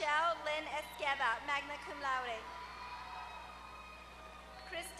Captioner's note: applause